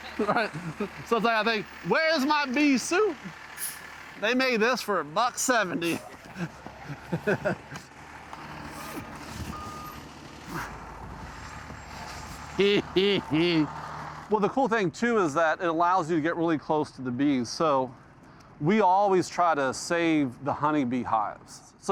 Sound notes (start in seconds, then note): 12.6 laughing